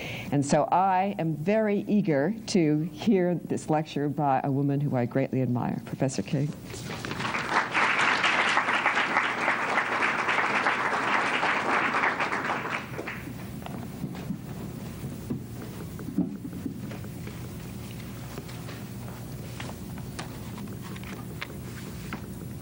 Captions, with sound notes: And so I am very eager to hear this lecture by a woman who I greatly admire, Professor Kay. [APPLAUSE]